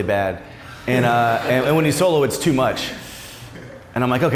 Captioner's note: laughs